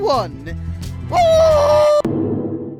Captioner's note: war scream